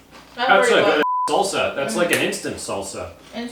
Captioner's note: beep